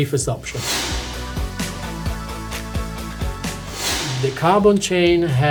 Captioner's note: lively music; screen whooshing